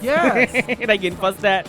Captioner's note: laughs